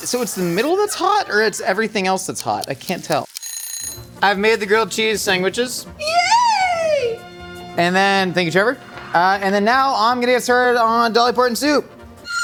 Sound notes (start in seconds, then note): 0.0 whipped cream hissing; 2.2 timer ticking; 3.3 timer ringing